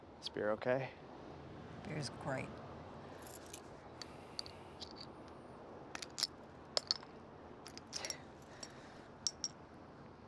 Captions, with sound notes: Is beer okay? Beer's great. [beer caps clatter]